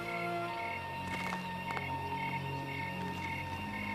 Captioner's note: patting